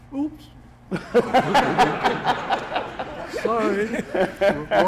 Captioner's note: laughs